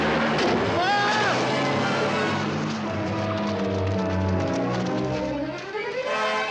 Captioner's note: thudding; Rossiter screaming